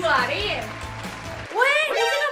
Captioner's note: applause